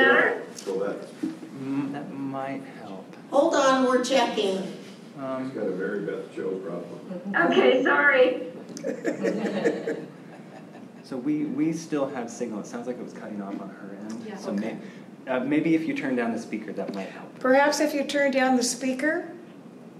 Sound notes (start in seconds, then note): 10.3 laughter